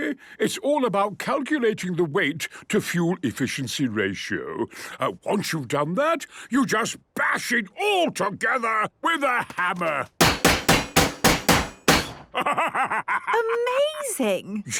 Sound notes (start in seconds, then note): 10.2 metallic bashing